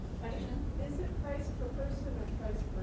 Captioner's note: voiceover